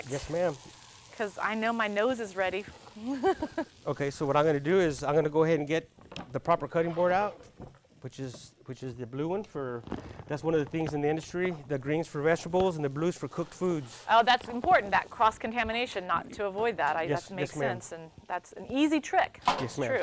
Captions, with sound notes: - Yes ma'am. - Cause I know my nose is ready. (laughs) - Okay so what I'm gonna do is I'm gonna go ahead and get the proper cutting board out, which is the blue one. That's one of the things in the industry. The green is for vegetables and the blue is for cooked foods. - Oh that's important; that cross-contamination. Not to avoid that. It makes sense. - Yes ma'am. - And that's an easy trick, it's true.